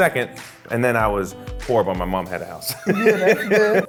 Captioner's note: laughs